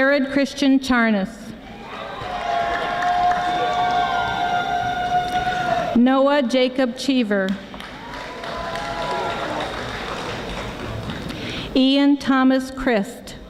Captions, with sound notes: Jared Christian Charnas. (audience applauding) Noah Jacob Cheever. Ian Thomas Christ.